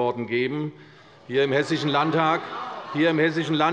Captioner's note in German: Lachen bei der SPD